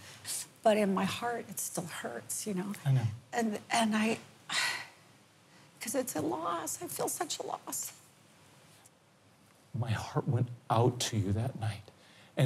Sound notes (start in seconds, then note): 2.9 sighs